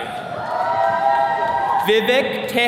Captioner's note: attendees cheering